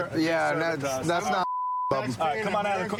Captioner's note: chatter